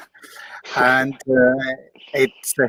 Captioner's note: chuckles